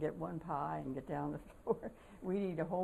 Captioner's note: laughter